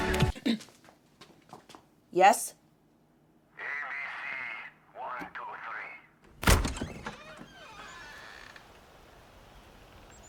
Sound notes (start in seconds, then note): 0.3 Ava clears throat; 6.3 door creaks